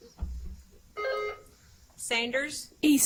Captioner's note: buzzer chimes